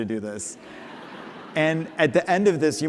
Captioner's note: laughter